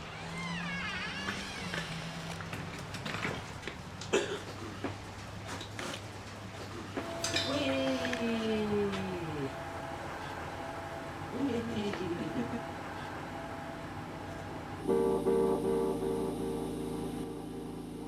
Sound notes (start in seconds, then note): 0.0 door creaking; 4.0 coughing; 14.4 oxygen machine hissing